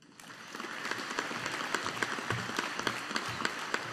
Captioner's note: audience applauding